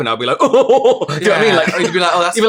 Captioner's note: horrendous Laugh